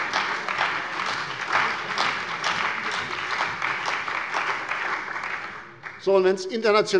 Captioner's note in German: Beifall bei der CDU und dem BÜNDNIS 90/DIE GRÜNEN